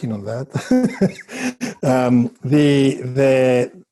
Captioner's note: chuckles